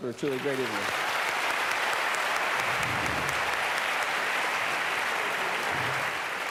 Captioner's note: applause